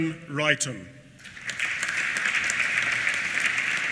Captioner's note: applause